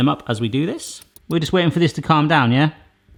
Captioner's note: watch ticking